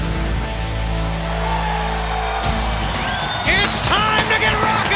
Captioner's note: audience cheering